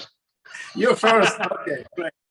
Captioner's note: laughing